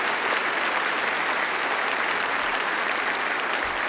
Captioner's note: applause